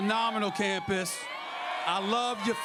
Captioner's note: crowd cheers